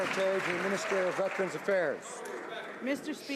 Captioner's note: some Applause